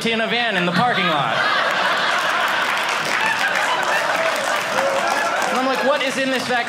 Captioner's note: audience applauding